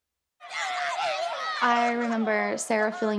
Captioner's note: people yelling